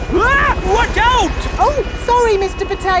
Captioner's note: screams